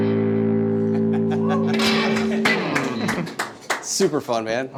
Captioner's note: audience applauding